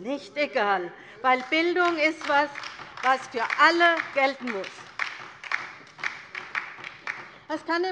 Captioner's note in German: Beifall bei der LINKEN